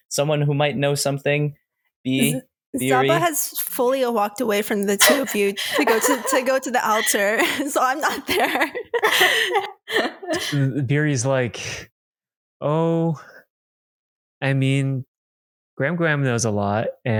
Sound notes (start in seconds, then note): 10.8 laughter